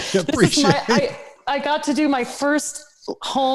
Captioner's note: laughter